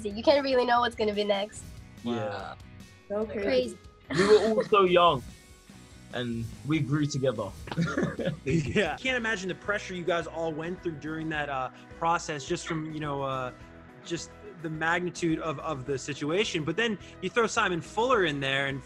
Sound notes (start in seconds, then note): 4.1 laughs; 7.6 laughs